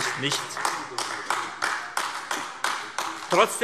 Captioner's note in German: Beifall AfD